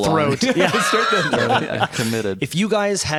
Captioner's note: laughter